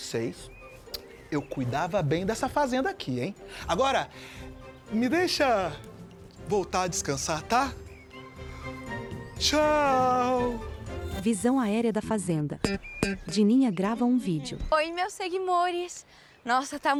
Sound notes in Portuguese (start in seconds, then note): 10.8 Acordes de guitarra; 10.8 Pássaros